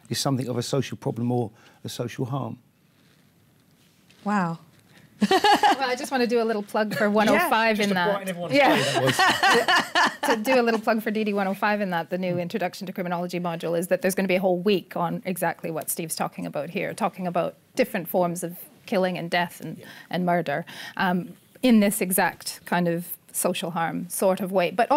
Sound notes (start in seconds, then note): 5.2 laugh; 8.6 laughter